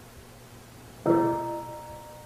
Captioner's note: half bell